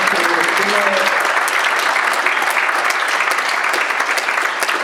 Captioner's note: audience claps